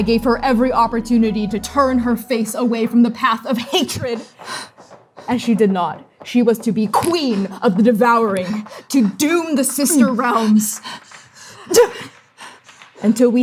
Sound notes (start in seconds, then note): 4.2 gasping, panting; 8.2 frantic panting, exerting; 8.5 weapons clashing, breathing; 11.8 grunting, breathing